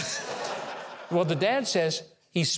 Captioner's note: audience laughs